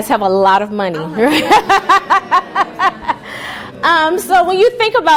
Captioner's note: laughing